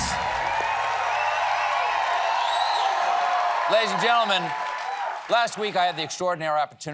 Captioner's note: cheers and applause